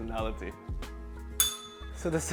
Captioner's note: bell rings